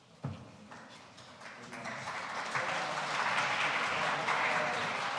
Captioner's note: audience applauding